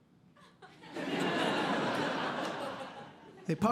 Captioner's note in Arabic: ضحك